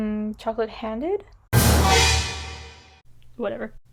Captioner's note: another suspensful sound efffect